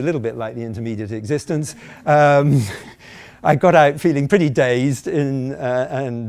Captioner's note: chuckling